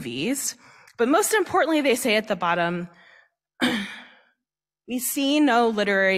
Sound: cough

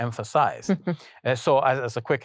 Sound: interviewer laughing

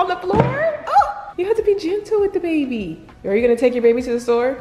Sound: woman yells

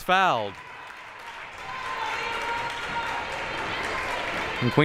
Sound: audience cheering

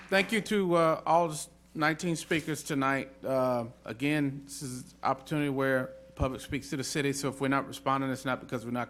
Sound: applause

